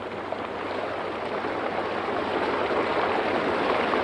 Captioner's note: water rushing